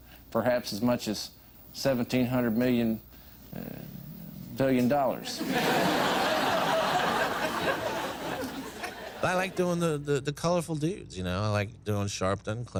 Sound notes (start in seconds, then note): 5.3 crowd laughing